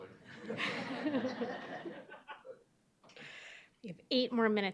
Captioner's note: audience laughing